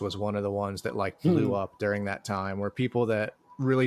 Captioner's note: chuckles